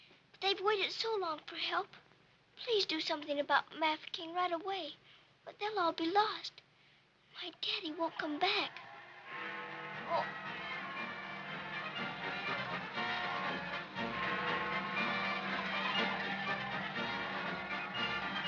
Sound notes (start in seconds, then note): 9.3 clock chimes; 10.9 celebratory band music